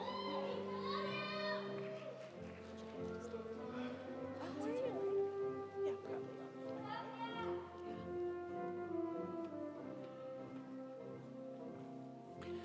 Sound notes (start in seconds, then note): 0.8 crowd cheering